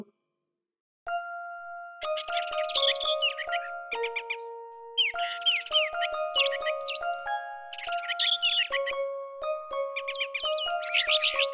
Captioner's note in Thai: เสียงนกร้องและเสียงดนตรี